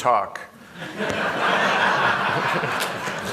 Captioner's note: laughter